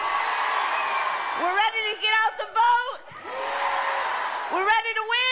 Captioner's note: cheering